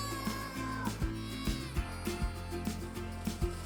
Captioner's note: children yelling